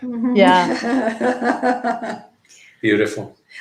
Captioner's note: everyone chuckling